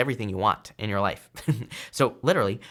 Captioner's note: chuckles